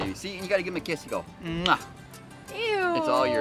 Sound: kissing loudly

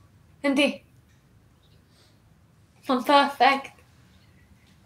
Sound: none

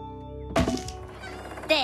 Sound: clunk!

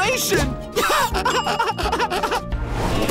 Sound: evil laugh

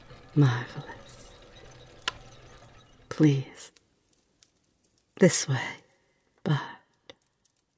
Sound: clockwork machine shuts off

